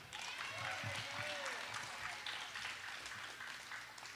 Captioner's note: audience applauds